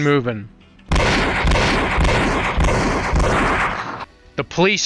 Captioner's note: blam